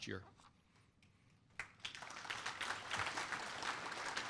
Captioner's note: applause